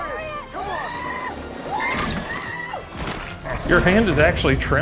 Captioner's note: screaming